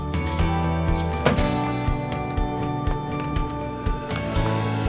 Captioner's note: car door slams